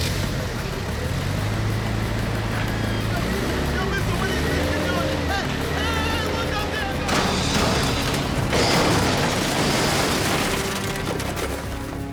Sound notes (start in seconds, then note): 0.1 vehicle starting; 6.9 shouting